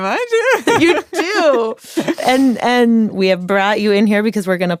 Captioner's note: laughs